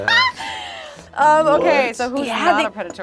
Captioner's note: laughs